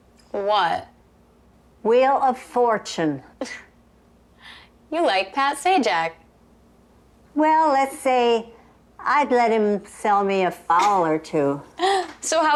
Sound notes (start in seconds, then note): none